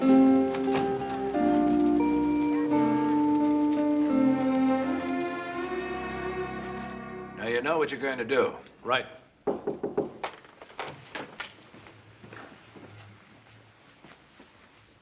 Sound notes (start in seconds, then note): 9.4 knocking at door